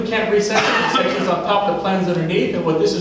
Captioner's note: coughing drowns out speech